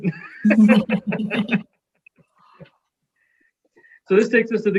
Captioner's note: all laughing